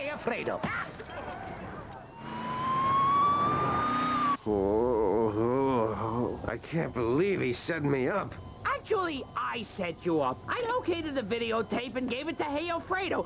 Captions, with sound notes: AHH! ( siren wailing ) ( moaning ) I CAN'T BELIEVE HE SET ME UP. ACTUALLY, I SET YOU UP. I OKAYED THE VIDEOTAPE AND GAVE IT TO GEOFREDO.